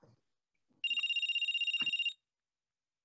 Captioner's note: phone Rings